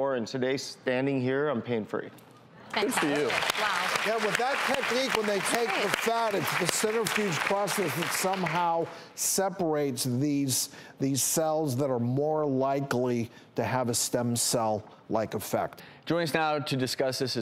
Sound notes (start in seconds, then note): 2.7 applause